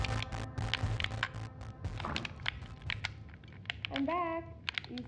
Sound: controller clicking

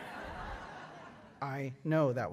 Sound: laughter

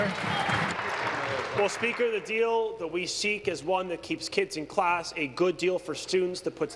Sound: applause

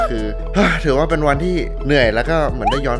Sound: sighs

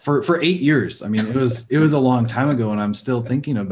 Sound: laughing

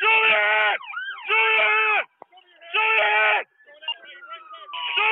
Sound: siren

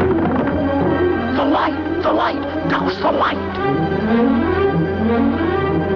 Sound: whispering

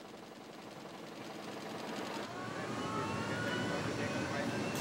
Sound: machinery whirring

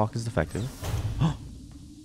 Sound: surprised gasp

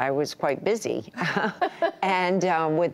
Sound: laughter

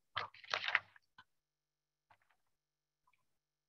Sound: paper rattling

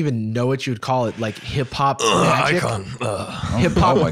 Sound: clears throat

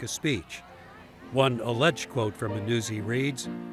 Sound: crowd chattering; playful piano music

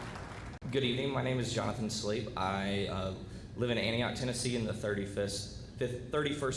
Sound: applause

